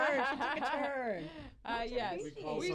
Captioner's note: laughter